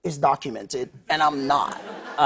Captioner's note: laughter